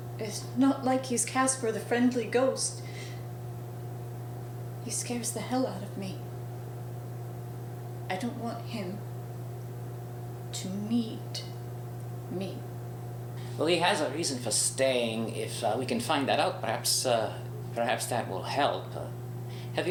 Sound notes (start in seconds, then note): none